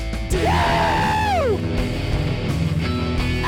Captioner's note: screams